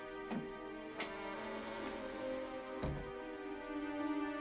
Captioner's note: door creaks closed